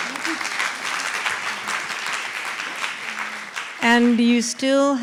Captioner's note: applause